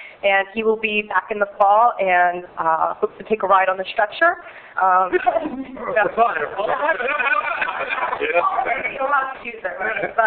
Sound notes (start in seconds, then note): 5.1 laughing